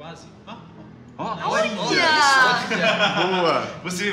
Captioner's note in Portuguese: Risos